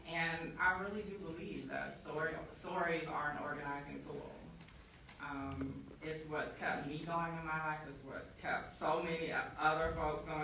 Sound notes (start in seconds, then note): none